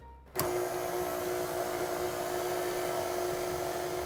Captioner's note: mixer growling